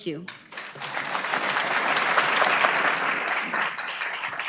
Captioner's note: audience clapping